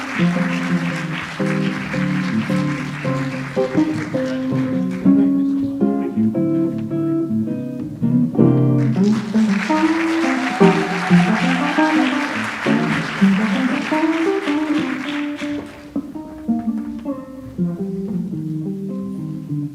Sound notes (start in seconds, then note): 8.7 audience applauds